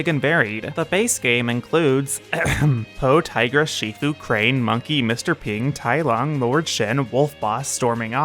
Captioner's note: ahem